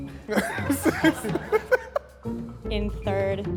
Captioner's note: laughs